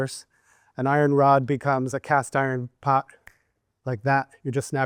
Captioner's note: snaps